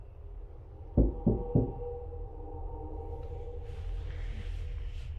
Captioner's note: door knocking